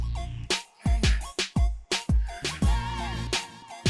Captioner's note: upbeat music; Mason groaning